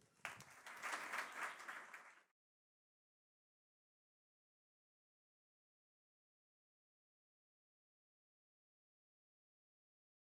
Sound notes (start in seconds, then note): 0.0 audience applauding